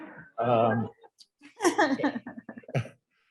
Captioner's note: laughter